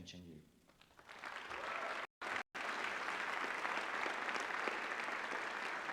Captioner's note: applause